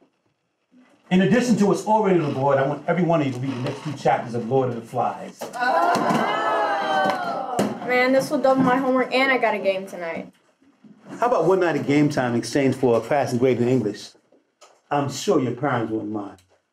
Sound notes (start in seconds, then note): 5.6 class groans